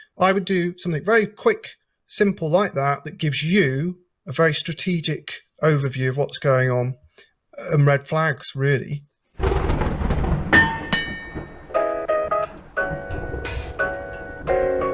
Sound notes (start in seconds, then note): 9.4 lightning striking; 10.6 bell ringing; 12.1 upbeat music